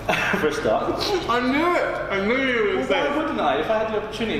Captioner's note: laughing